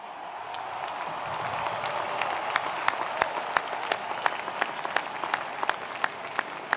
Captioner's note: attendees applauding; attendees cheering